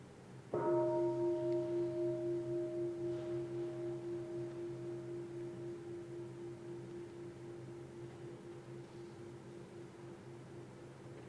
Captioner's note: bell